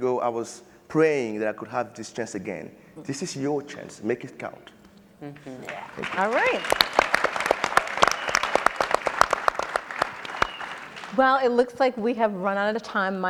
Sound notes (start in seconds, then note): 7.2 audience and panelists applauding